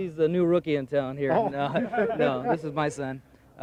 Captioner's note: laughing